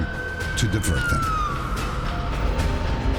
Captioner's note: siren